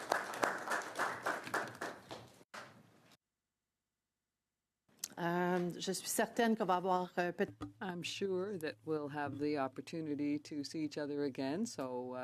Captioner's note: applause